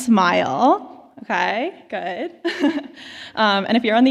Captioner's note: laughs